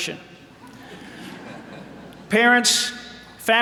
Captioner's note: audience laughing